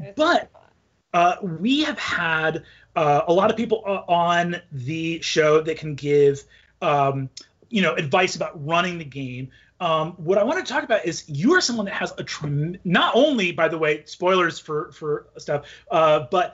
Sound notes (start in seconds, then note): none